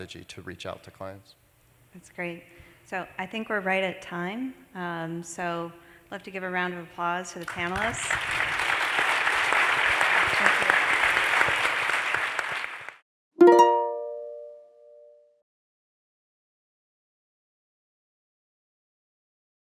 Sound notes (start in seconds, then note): 7.2 applause; 13.4 chime ringing